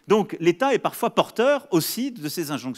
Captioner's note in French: none